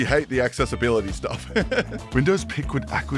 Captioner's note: giggles